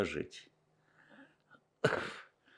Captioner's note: coughing